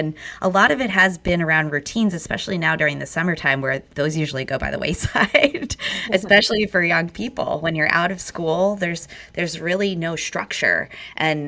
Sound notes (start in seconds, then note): 5.0 laughs